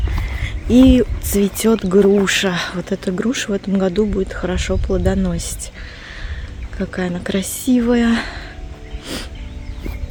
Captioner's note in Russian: фыркает